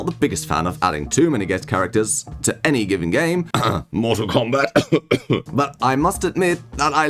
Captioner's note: cough